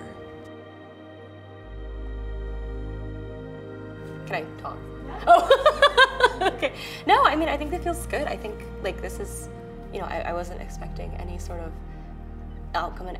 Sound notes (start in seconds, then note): 0.2 soft music; 5.1 laughs genuinely